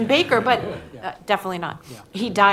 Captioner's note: laughter